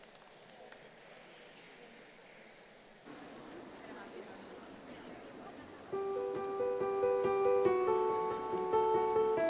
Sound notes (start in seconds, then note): 4.5 audience chattering; 5.9 gentle piano music